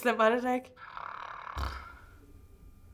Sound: snoring

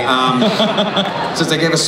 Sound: laughter

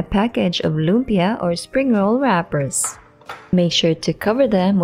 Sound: thudding

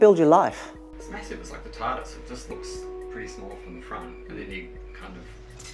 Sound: chatting and atmos

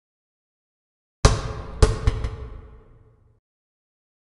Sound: basketball bouncing sound

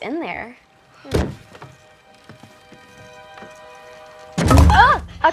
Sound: banging noise

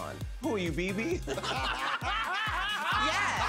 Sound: laughter

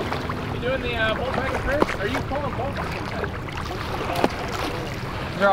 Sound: water drowns out speaker

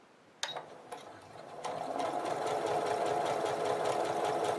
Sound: sewing machine stitching

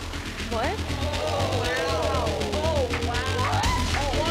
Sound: crowd chatters

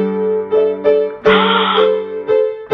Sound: gasp

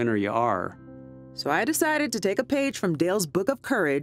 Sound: voiceover

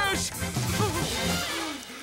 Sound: panting

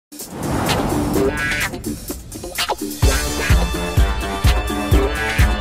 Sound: air whooshes; upbeat music

